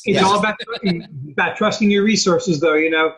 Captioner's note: laughing